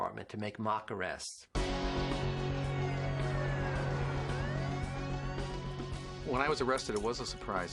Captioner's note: upbeat music; siren wailing